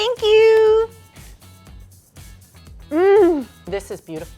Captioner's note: upbeat music; moans